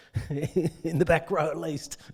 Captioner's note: man laughing